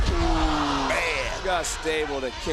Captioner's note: audience groaning